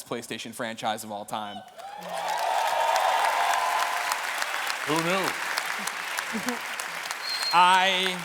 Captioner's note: cheers and applause